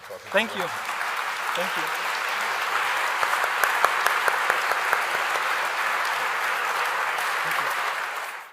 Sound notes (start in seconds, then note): 2.8 audience clapping